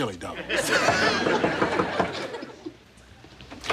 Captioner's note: knocking on door